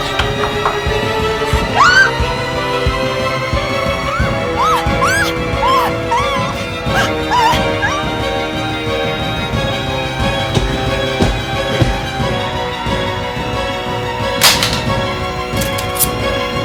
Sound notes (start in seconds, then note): 1.6 Keira screams; 3.8 screaming continues